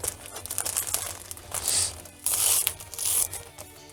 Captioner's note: paper rustling